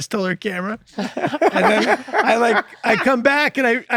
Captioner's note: laughter